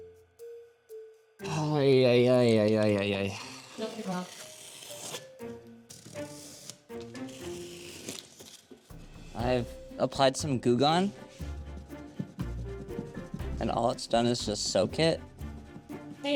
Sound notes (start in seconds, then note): 1.4 sighs; 5.9 paper rips